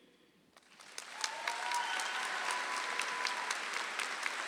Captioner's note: audience applauds